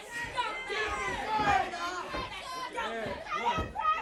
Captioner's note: crowd chatter